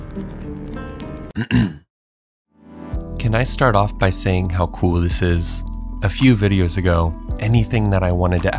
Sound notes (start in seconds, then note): 1.4 clearing throat